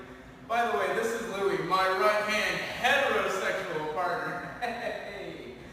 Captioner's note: chuckles